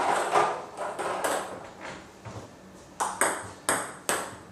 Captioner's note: ball ping pong hitting continues